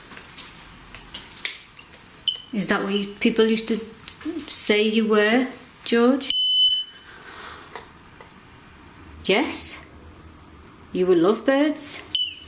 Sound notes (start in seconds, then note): 6.3 beep; 12.1 beep